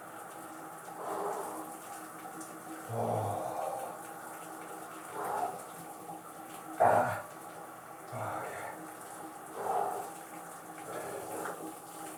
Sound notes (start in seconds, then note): 1.3 starting to slow breathing